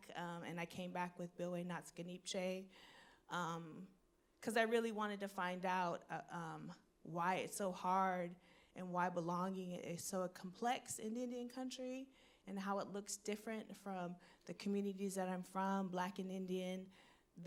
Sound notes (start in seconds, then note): none